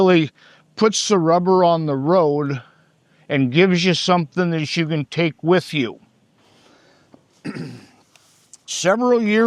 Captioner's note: clears throat